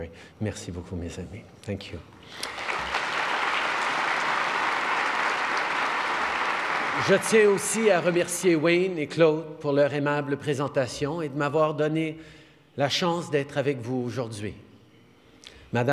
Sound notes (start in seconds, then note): 2.3 applause